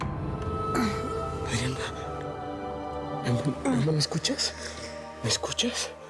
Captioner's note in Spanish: gemidos suaves de ella